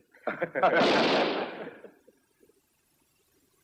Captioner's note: gunshot